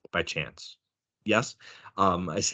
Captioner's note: chuckling